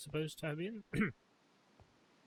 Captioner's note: coughs